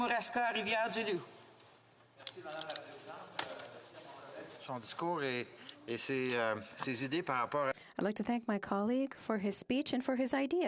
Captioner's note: speaking French